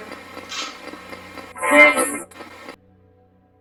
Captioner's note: buzzing